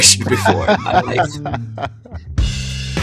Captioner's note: laughter